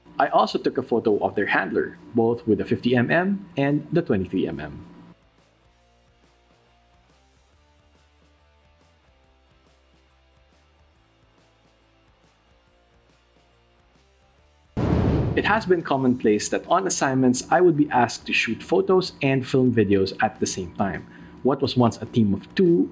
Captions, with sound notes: I also took a photo of their handler, both with the 50mm. And the 23mm. (soft upbeat music) (whooshing) It has been commonplace that on assignments I would be asked to shoot photos and film videos at the same time. What was once a team of two